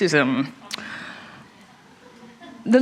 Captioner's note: laughter